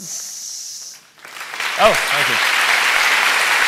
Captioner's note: applause